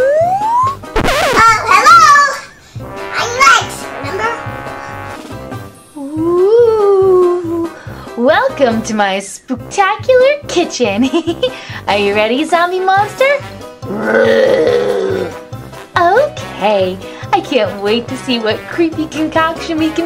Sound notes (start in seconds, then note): 11.0 giggles; 13.8 zombie groans